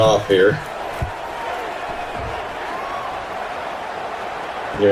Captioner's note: crowd Noises